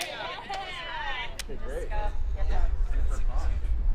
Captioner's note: indistinct chatter